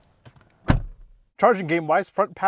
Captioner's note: car door slamming